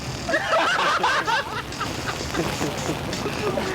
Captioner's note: laughing